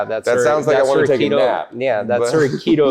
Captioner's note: laughs